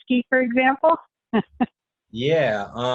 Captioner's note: laughs